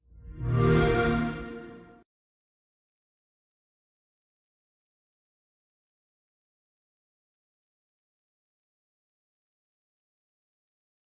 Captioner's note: xbox sound